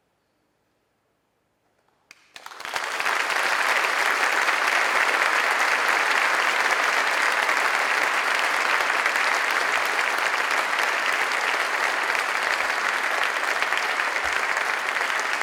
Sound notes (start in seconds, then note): 1.9 applause